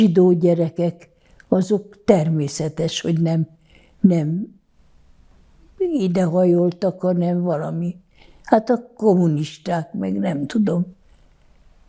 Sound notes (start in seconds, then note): none